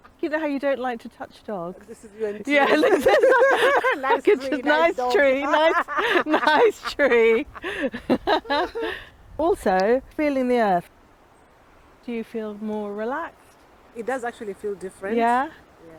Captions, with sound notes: You know how you don't like to touch dogs? [LAUGHTER] Nice tree, nice dog. Nice tree, nice tree. Also, feeling the earth. Do you feel more relaxed? It does actually feel different. Yeah?